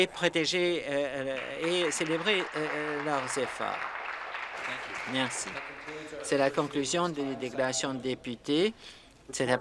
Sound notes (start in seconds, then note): 4.9 some applause